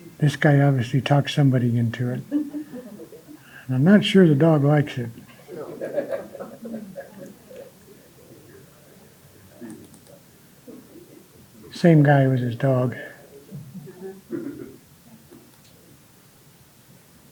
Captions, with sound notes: This guy obviously talks somebody into it. And I'm not sure the dog likes it. (audience laughing) Same guy with his dog.